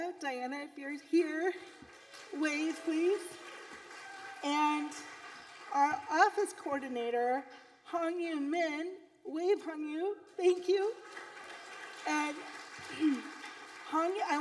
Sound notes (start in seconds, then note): 3.6 audience applauding; 10.8 audience applauding